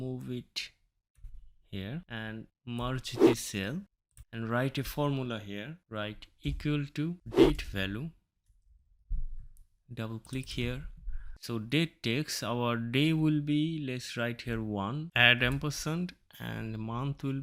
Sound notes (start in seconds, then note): 7.3 woosh Sound